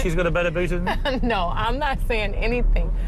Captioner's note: laughing